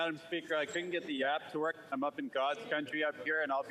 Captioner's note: speaking FRENCH